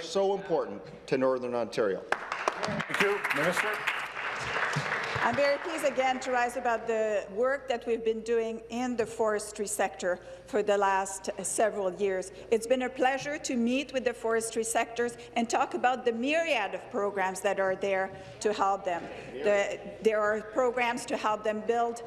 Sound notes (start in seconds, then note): 4.6 applause